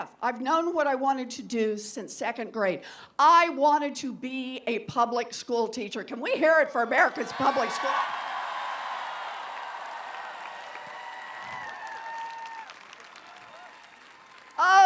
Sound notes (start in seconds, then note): 7.3 applause